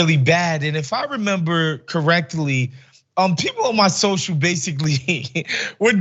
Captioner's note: laugh